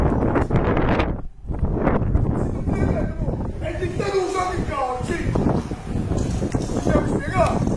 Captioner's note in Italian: Folata di vento